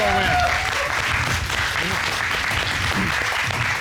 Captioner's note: applause